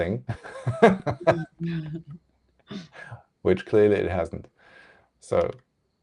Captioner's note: laughs